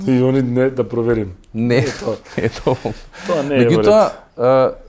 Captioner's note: laughs